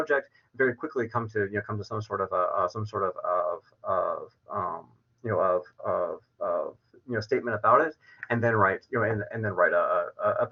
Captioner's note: verbal stutters